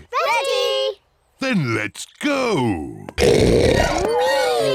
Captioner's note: oinks